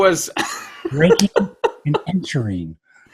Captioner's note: laughs